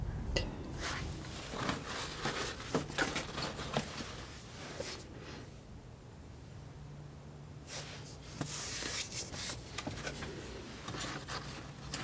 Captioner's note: scratching